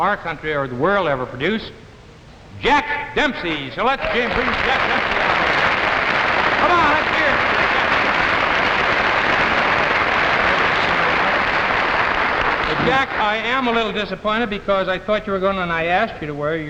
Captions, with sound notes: our country or the world ever produced, Jack Dempsey. So let's bring Jack up here. (audience clapping) Come on, let's hear it! (audience clapping) Jack, I am a little disappointed because I thought you were going and I asked you to wear